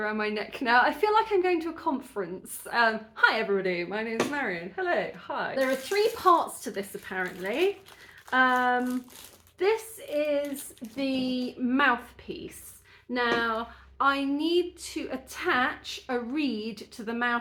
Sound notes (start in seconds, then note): none